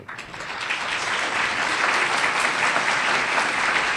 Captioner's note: audience applauds